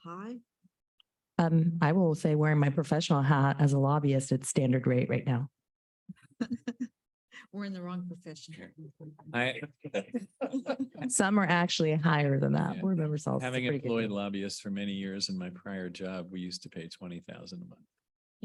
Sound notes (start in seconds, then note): 9.4 laughter